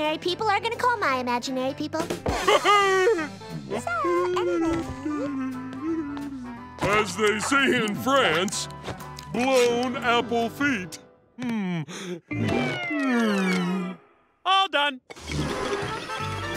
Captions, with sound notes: are going to call my imaginary people. [laughing] So, anyway... [humming] As they say in France, "Blown apple feet." Mm. All done.